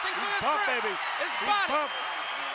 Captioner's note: applause